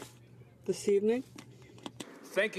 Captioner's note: speaking French